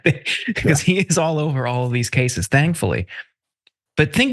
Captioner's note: laugh